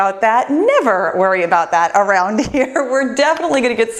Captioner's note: laughs